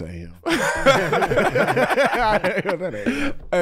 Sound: group laughs

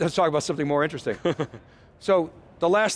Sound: laughs softly

